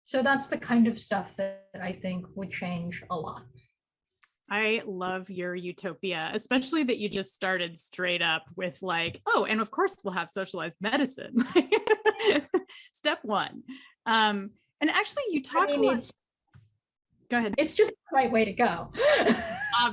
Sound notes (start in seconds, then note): 11.6 laughs; 19.0 chuckles